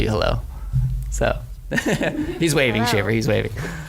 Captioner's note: laughs